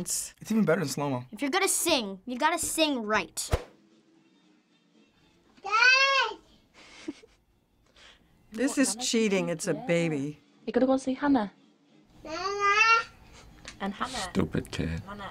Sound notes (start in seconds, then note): 6.8 woman off-screen chuckles